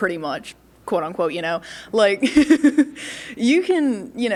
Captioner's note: laughs